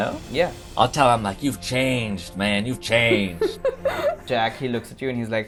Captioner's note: laughter